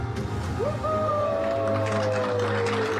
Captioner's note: all cheering and applauding